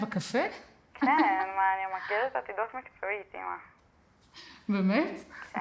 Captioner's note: speaking foreign language